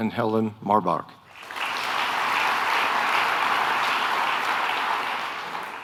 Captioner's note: audience applauding